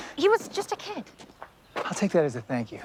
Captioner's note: sighs